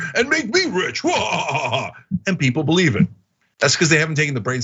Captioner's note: laugh